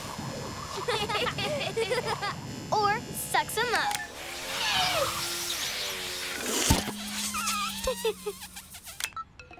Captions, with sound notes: (Laughter) Or sucks 'em up! (Giggles)